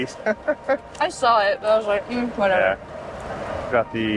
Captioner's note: laugh